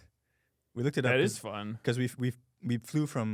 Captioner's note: laughs